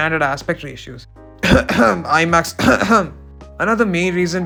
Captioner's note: cough cough